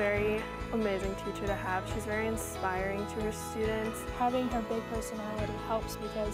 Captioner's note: applause